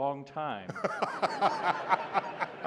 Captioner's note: laughter